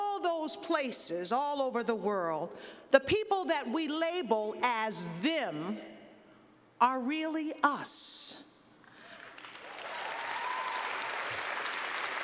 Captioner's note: clapping